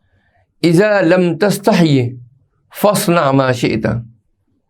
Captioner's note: hadeeth in Arabic